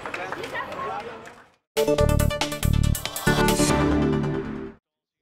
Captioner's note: applause